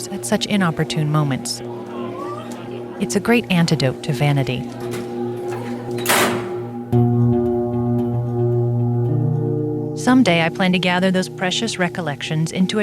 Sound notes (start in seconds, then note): 4.3 metal clanking